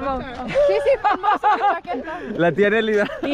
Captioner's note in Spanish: Risas